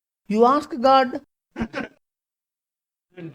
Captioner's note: laughs